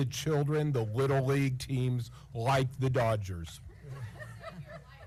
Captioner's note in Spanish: risas